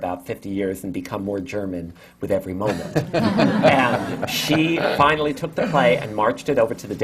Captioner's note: laughter